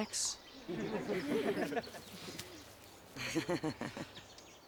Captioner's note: laughing